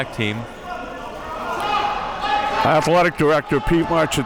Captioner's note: audience chattering and yelling